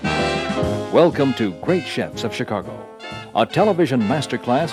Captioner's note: voiceover